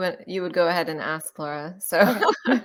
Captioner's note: laugh